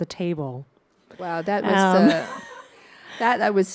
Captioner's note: chuckles